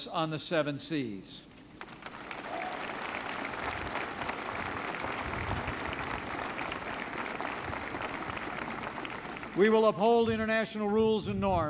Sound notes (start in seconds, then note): 1.8 applause